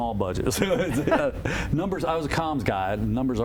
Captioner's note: laughter